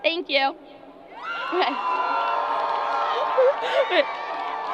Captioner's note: crowd applause